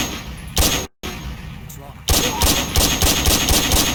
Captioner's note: gunshots echoing